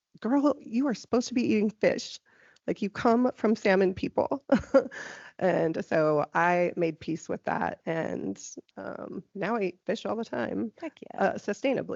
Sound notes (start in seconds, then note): 4.4 laughing